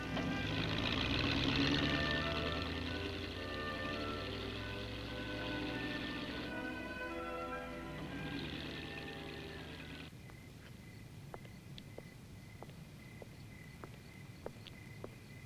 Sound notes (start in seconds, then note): 9.9 crickets chirping; 13.8 footsteps